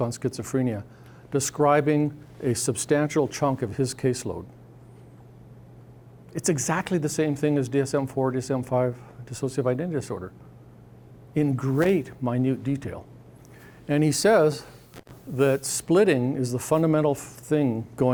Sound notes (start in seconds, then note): none